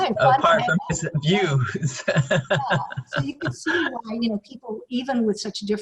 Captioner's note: laughter